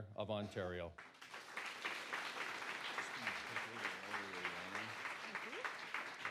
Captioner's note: applause